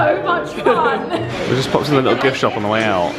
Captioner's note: laughs